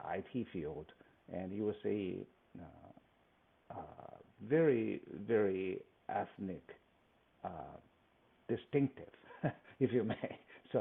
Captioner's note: laughs